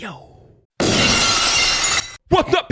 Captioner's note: glass smashes